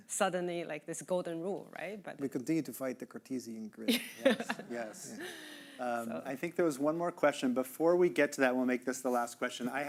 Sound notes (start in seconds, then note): 4.0 laughing